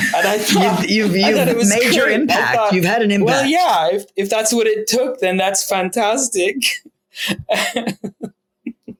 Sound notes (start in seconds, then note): 7.3 laughs